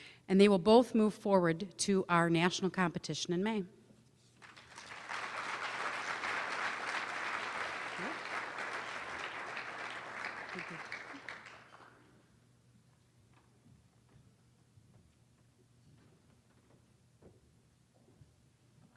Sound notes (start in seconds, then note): 4.4 applause